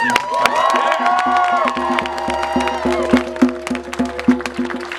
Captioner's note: clapping & Cheering, drumming